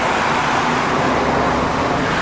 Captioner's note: cars, Plane Noises